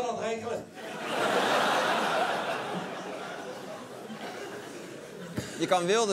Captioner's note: laughter